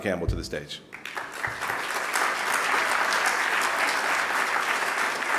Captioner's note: audience clapping